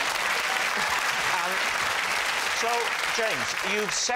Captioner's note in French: rires; applaudissements